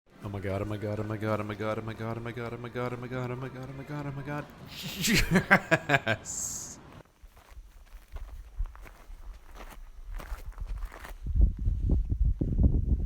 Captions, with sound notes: Oh my God! Oh my God! Oh my God! Oh my God! Oh my God! Oh my God! Oh my God! Oh my God! Oh my God! Oh my God! Oh my God! Yessssssss! *happy laughter* *footsteps* *wind*